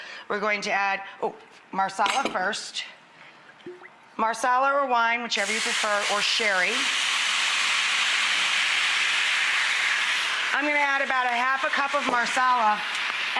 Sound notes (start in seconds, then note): 7.2 liquid sizzling